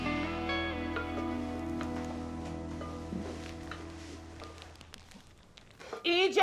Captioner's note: cooking supplies rattling gently